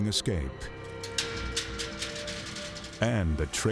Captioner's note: cage door clanking